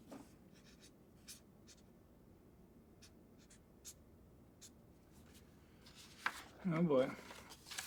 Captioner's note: marker rasps